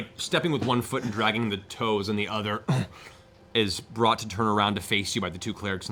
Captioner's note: grunts